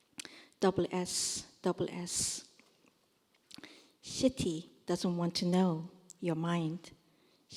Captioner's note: korean